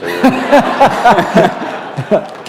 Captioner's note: laughter